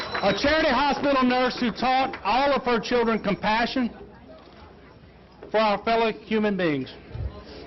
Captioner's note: applause